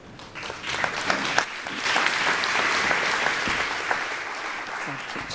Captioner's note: applause